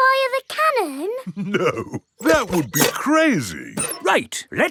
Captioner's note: chuckling